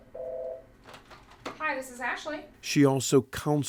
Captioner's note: phone rings